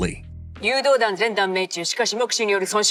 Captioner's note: japanese speech